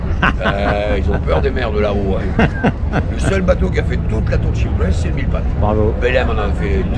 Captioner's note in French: Rire